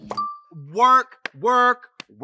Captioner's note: wine cork pops, clinks; Katya claps